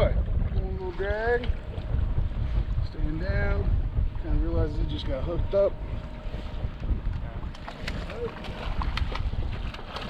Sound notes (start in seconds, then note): 7.6 fish splashing; 9.1 boat engine idling